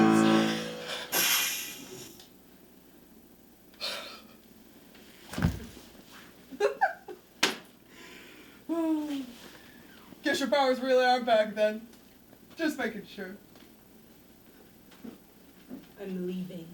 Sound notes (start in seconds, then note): 0.2 spell fizzles and dies